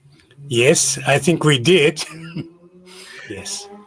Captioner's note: laughs